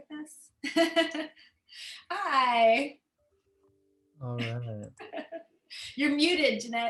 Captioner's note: laughter